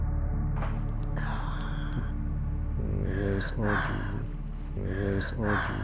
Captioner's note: deep sigh